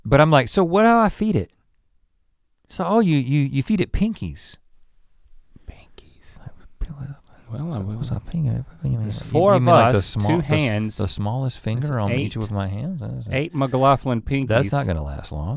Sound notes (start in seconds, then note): 6.9 mumbles